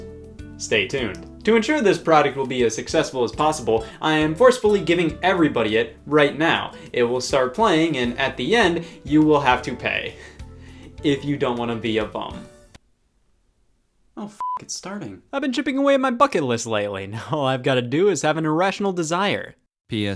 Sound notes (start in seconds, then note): 14.3 beep